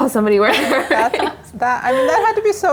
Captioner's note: laugh